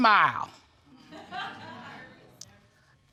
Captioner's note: laughter